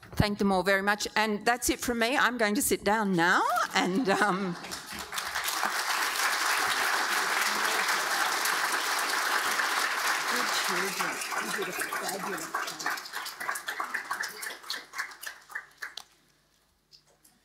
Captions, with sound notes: Thank them all very much, and that's it for me. I'm going to sit down now and. (audience applauding) - Good children, you did a fabulous job.